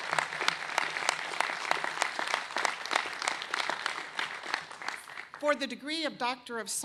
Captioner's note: applause